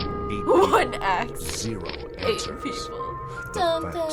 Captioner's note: laughs